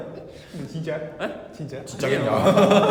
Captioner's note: asks naively